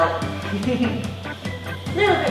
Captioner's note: laughing